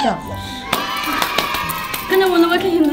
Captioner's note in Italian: Battendo le mani